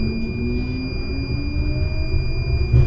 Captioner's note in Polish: Dzwięk - pisk - manualnego nadania sygnału zwrotnicy